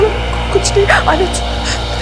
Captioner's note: Sobbing